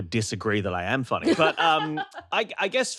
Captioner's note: laughs